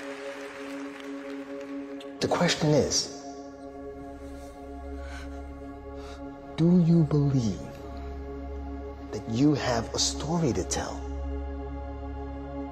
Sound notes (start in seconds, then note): 3.9 breathing heavily